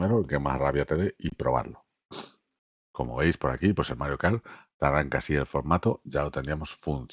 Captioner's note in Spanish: resoplido